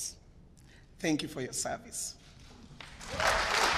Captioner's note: applause